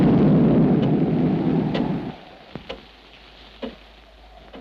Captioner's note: clock ticks